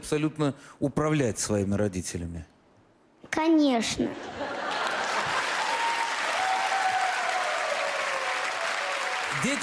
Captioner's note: laugh, applause